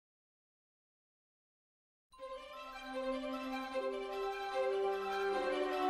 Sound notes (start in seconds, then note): 0.0 silence; 2.2 orchestral music plays